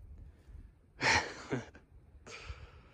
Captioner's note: laughs